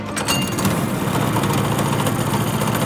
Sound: engine turns, rumbles

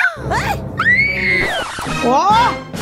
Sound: scream

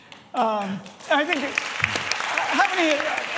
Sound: applause

